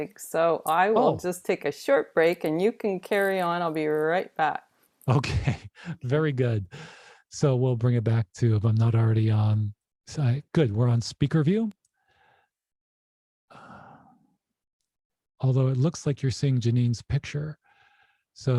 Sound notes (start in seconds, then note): 5.1 laughs